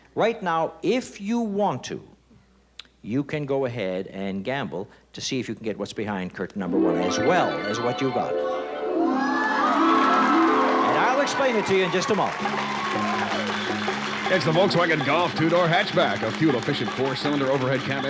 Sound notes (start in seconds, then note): 9.1 cheering and shouting; 12.5 applause